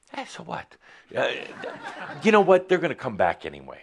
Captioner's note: some chuckles